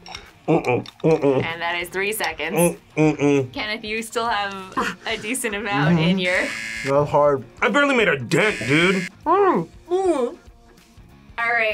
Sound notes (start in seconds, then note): 8.4 buzzer rings; 8.6 both grunting